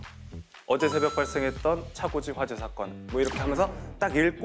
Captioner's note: announcer tone